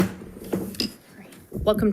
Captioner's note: gavel bangs